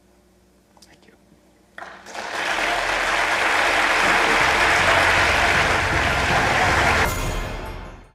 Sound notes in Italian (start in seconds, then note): 1.8 Applausi